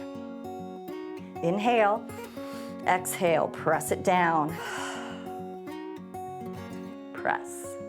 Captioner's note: exhales; inhales